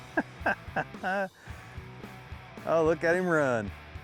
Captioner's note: laughing